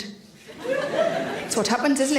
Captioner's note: audience laughs